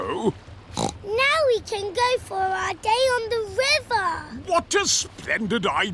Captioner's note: snorts